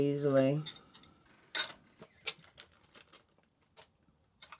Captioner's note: glass tapping